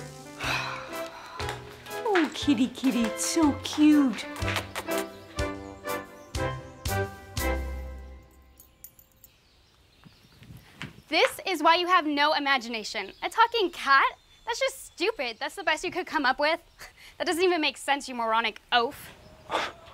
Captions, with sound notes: (Tina sighs) Oh, kitty, kitty. So cute. (lips smacking) - This is why you have no imagination! A talking cat? That's just stupid! That's the best you could come up with? That doesn't even make sense, you moronic oaf!